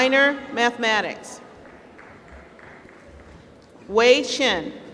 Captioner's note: applause